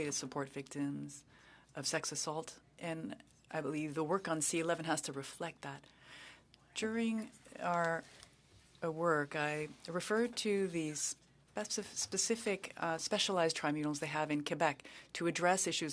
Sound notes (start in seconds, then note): 0.6 speaking French